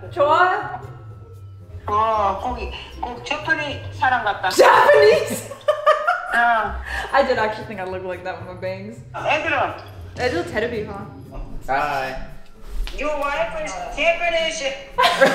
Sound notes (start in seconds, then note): 0.3 speaking in Korean; 2.0 mom speaking in Korean; 9.3 mom speaking in Korean; 9.3 speaking in Korean; 14.9 all laughing